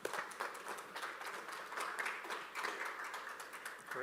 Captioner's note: applause